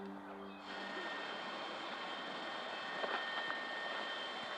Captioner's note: plane engine running